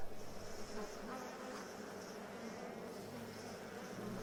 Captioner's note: faint buzzing of flies